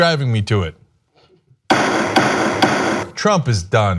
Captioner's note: gavel sound